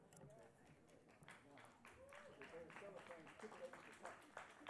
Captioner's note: applause